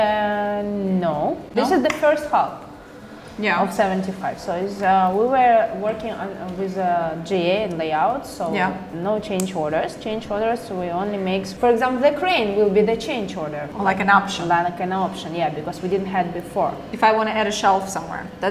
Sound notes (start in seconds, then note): none